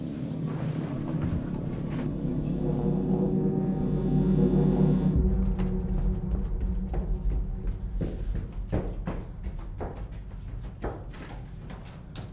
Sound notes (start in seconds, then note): 7.0 footsteps